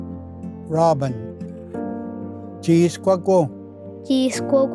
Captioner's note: repeats in Cherokee